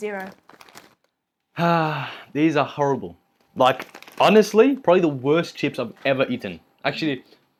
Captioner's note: sigh